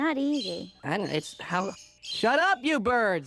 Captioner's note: birds chirping